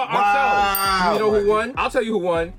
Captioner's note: bell dings